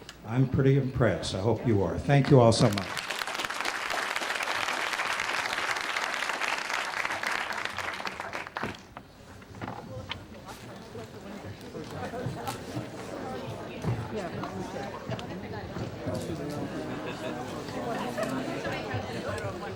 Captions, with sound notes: I'M PRETTY IMPRESSED. I HOPE YOU ARE. THANK YOU ALL SO MUCH. [APPLAUSE]